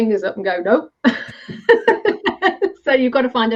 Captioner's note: laughing